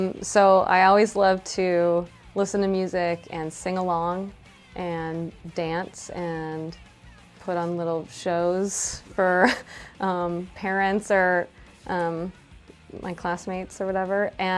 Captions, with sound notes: So I always loved to listen to music and sing along and dance and put on little shows (chuckles) for parents or my classmates or whatever.